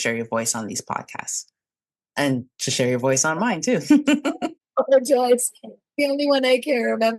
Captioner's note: laughs